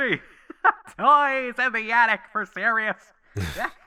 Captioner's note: laughing